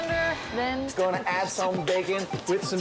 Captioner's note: beatboxing